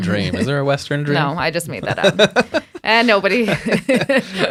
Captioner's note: laughing